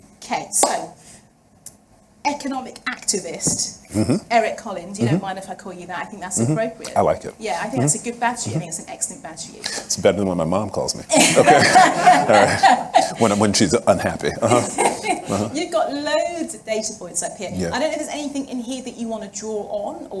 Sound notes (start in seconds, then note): 11.1 laughs; 11.1 audience laughing